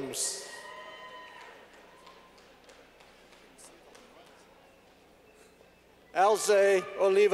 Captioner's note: clapping